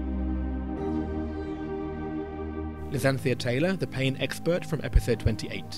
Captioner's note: voiceover